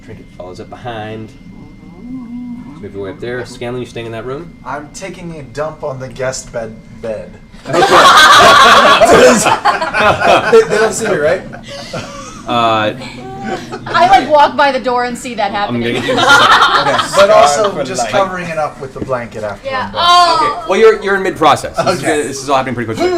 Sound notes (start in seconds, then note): 7.6 laughter; 15.9 laughter